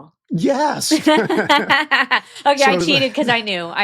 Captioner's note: both laughing